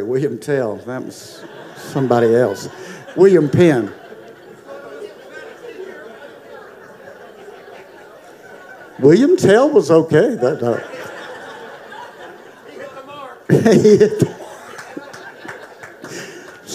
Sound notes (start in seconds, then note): 2.1 audience laughing; 5.5 audience chattering; 13.4 laughing